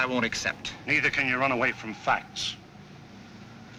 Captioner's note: wind blowing